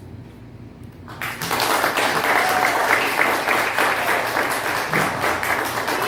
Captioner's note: applause